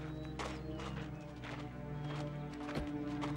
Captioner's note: footstep